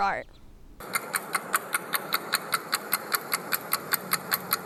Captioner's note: clock ticking